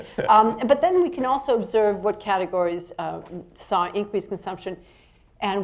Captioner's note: laughs